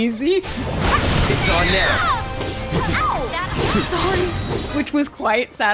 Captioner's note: screams